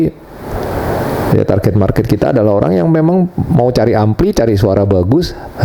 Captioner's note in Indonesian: berdehem